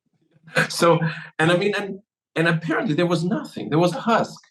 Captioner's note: laugh